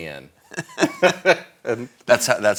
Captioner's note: both laughing